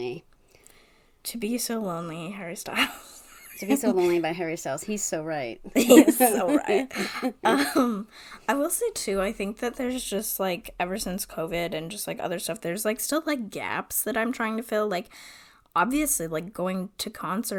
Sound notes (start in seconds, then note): 2.8 wheeze laughs; 5.8 laughs